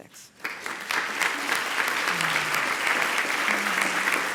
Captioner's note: applause